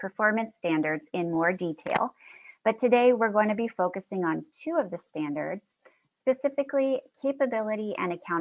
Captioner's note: click